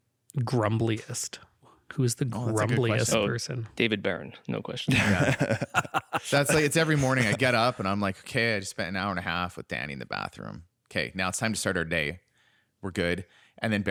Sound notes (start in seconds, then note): 4.9 laughter